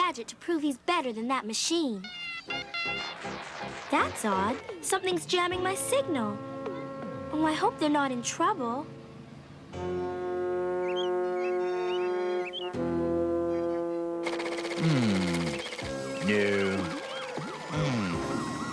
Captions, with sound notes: TO PROVE HE'S BETTER THAN THAT MACHINE. [BEEPING] THAT'S ODD. SOMETHING'S JAMMING MY SIGNAL. OH, I HOPE THEY'RE NOT IN TROUBLE. [BIRDS CHIRPING] - HMM...NO. HMM...